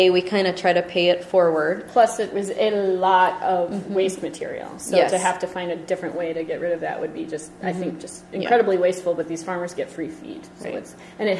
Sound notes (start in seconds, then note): 2.1 voiceover